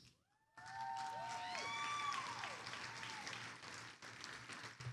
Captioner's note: attendees applauding